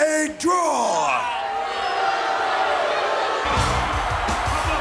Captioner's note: crowd booing; upbeat music; announcer vocalizing